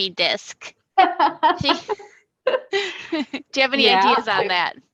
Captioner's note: laughs